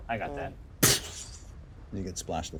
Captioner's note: imitates explosion